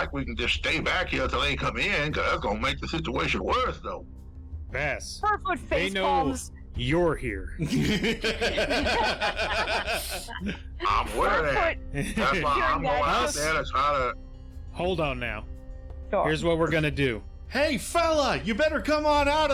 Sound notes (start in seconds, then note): 10.1 laughter